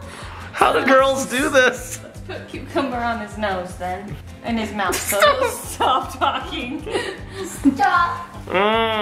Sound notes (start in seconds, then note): 7.1 laughing